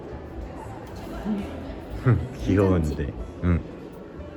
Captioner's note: laughing